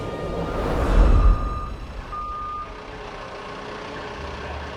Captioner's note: trucks beeping